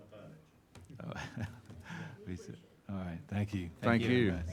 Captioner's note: laughing